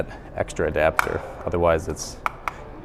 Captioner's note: latch clicks